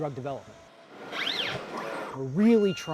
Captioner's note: robotic arm whirring